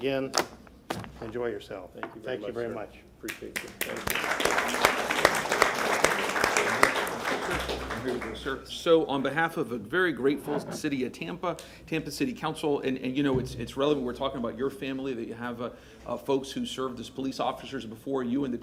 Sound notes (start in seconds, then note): 7.6 applause